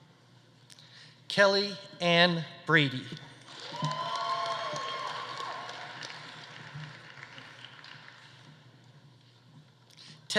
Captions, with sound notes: Kellie Anne Brady. (audience applauding) (audience cheering)